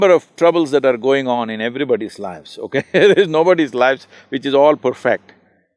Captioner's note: laughs